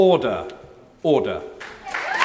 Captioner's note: background applause